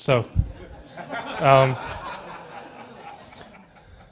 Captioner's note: laughter